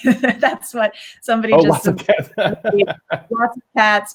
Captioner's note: laughs